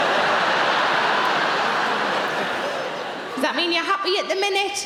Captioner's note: audience laughing